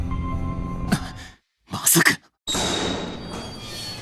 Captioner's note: gasp!